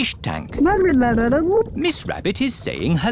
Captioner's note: gurgling